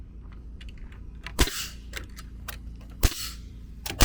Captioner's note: nail gun shooting